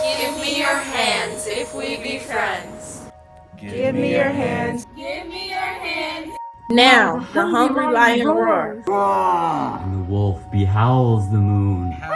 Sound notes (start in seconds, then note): 8.8 lion roars; 11.9 wolf howls